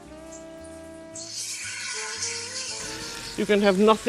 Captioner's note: chicken sizzles